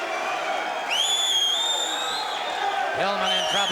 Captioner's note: crowd cheering